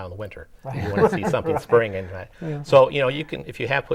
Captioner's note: laughing